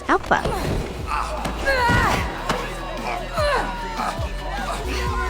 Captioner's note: lots of fighting grunts and yells